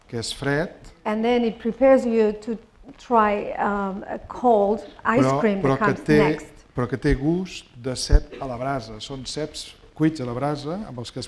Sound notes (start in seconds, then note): 7.0 speaking spanish